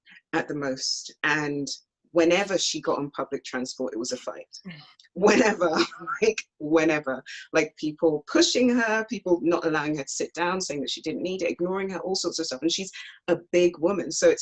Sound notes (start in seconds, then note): 5.5 clears throat